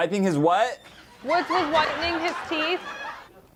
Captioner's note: cue edited laughter